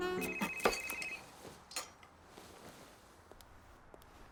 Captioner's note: phone ringing